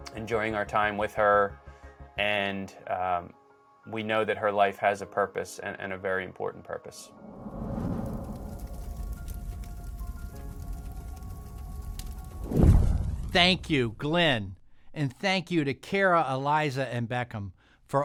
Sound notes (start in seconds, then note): 7.3 torch blazing; 8.3 soft music